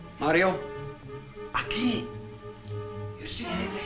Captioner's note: Mario speaks Spanish